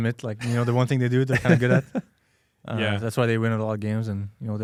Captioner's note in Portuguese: risos